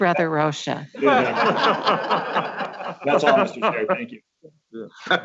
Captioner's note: laughs